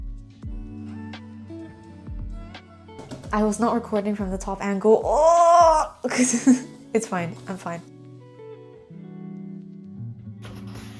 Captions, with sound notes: I was not recording from the top angle. *sound of frustration* It's fine. I'm fine. :'D